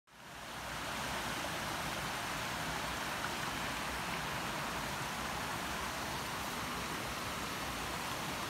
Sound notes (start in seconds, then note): 0.1 continuous sound of running water from the stream